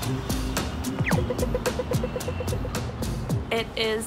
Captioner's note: crossing alarm blips